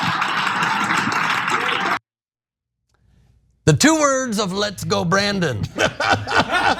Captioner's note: laugh